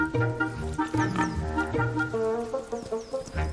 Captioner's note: pigs snorting; playful music